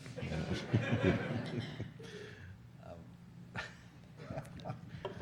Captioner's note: audience laughing